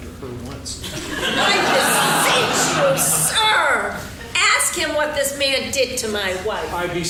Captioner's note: laughing